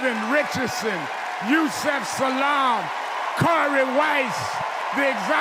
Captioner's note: cheers and applause